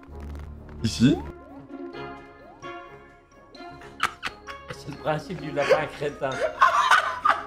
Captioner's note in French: Rires